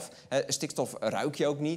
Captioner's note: none